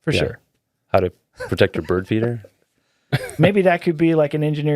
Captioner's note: laughing